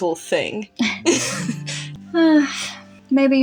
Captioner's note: laugh; chuckle